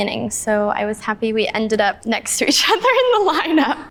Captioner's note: laughing